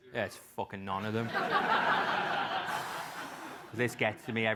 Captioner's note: laugh